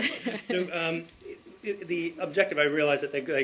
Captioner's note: laughter